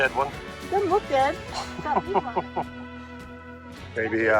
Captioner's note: laughs